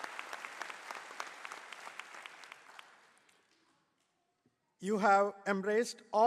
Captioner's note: applause